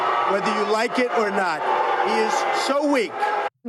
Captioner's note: crowd booing